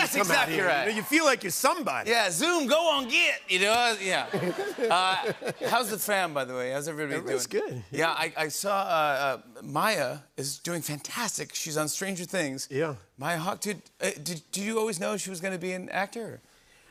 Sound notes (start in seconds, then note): 4.1 laughter